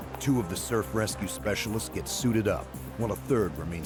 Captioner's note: voiceover